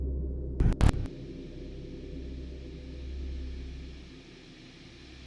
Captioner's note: static flipping; static humming